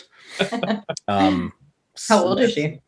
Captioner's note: all laughing